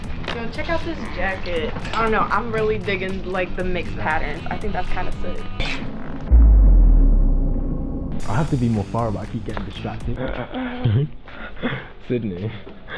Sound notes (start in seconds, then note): 6.2 hollow booming; 10.1 laughing